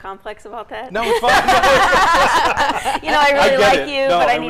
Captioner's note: group laughing